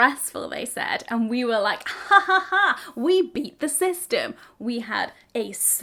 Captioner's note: woman laughs